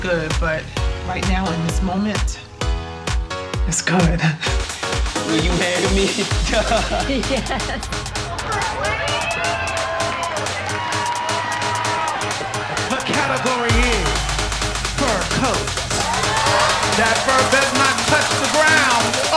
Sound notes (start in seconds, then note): 6.2 laughing; 8.7 cheers and applause; 15.8 crowd cheering